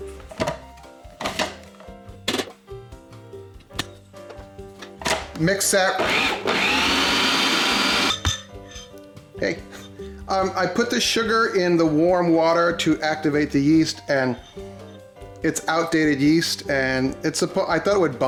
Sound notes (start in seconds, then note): 5.9 machine whirs